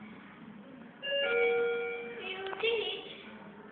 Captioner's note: up Chime